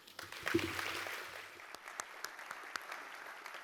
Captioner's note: applause